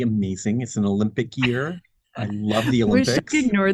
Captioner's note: laughs